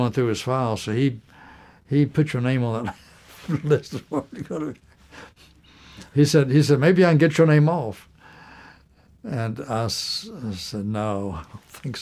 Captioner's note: laughter